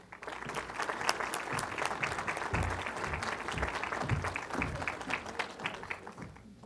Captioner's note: applause